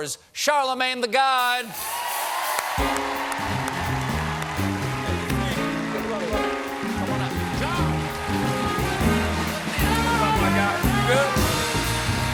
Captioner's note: applause